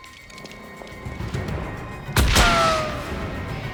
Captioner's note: gunshot